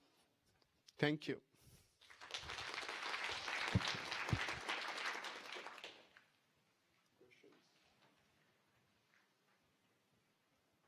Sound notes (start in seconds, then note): 2.0 applause